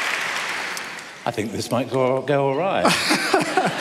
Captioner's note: laughter